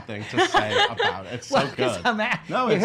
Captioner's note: laughing